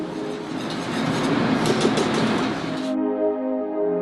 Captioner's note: soft music; cooking noises